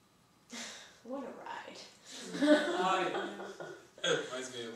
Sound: laughing

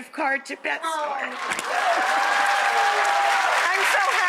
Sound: audience cheering

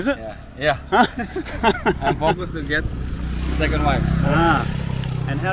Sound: laughing

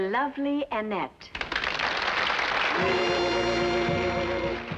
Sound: applause

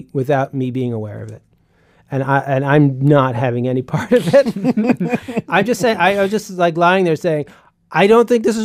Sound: laughs

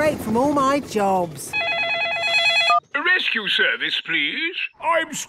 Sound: phone ringing

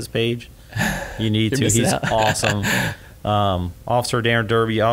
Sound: laughs

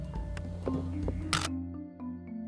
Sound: camera clicks

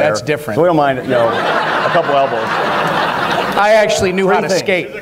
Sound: audience laughter throughout

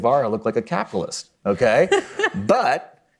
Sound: chuckles

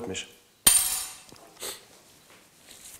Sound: clinking

